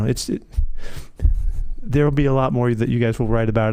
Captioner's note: laughing